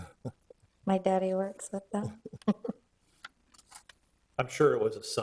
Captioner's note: board members chuckle